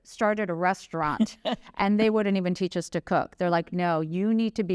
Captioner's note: laughter